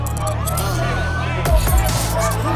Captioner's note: crowd shouting; dramatic music